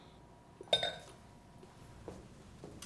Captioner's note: glass clanks; footsteps pattering